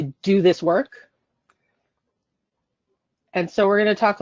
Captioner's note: silence